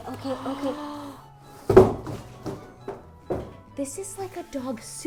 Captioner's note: quiet gasping